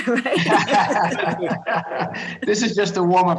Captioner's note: laughter